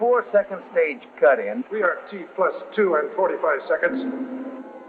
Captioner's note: man on PA